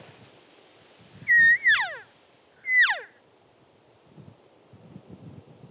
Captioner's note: elk call squeaking